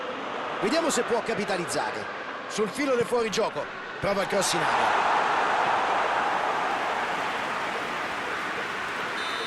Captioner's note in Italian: Applauso